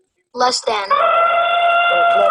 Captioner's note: voiceover; elephant trumpeting